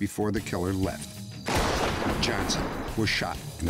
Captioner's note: gunshot